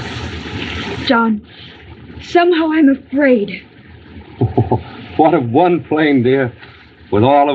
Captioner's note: chuckling